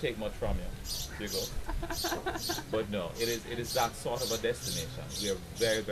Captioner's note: laughing